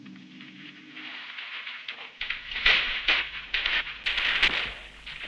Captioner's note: fireworks popping